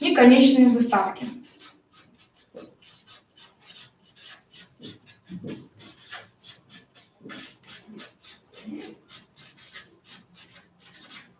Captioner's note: скрежет маркера по бумаге; скрежет маркера по бумаге